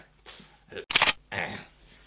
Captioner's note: unloading sound